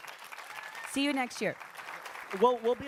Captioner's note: applause